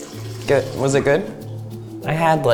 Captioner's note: urine stops splashing